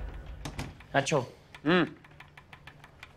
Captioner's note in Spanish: Sonido al cerrar la puerta